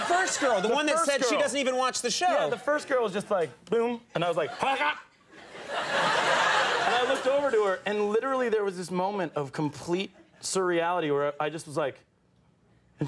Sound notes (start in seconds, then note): 5.9 audience laughing